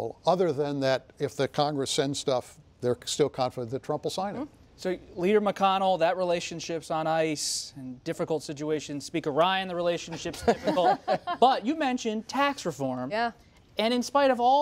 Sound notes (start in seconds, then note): 10.1 laughter